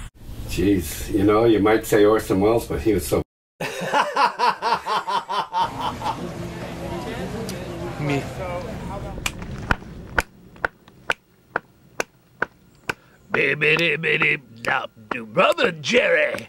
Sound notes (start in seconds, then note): 3.6 laughs loudly; 9.0 fingers snap rhythmically